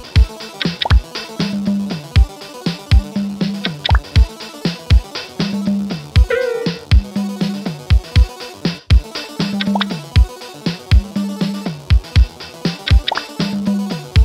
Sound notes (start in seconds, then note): 6.3 point lost sound